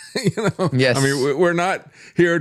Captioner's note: laughs